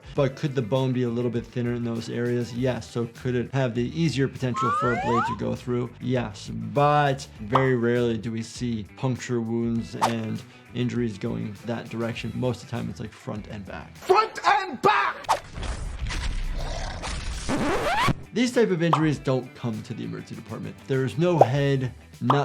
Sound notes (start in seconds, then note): 15.3 bones crack; 16.5 creature growls